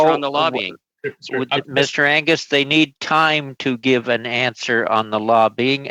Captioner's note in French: voix de l'interprète